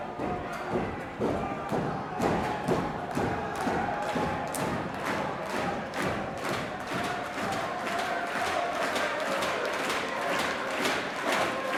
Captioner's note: crowd cheering